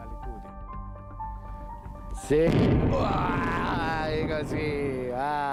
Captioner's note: speaking in a foreign language